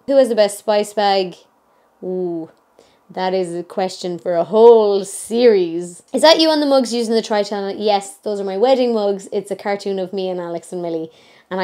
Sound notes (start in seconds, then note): none